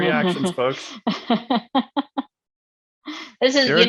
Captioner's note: laughs